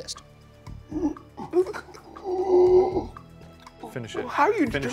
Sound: groaning

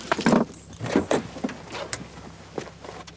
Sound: car door opens

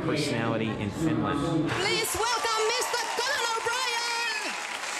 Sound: crowd cheering

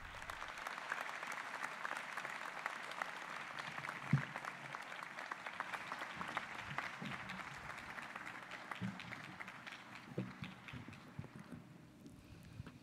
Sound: applause

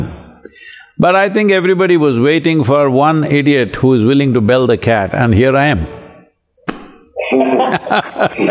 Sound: laughter

